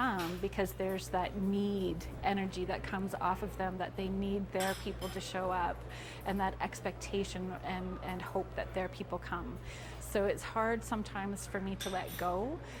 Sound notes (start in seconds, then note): none